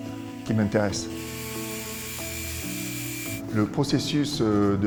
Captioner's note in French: bruit de ponceuse